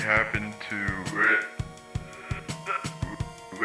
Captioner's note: losing signal